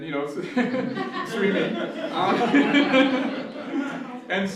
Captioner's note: laughter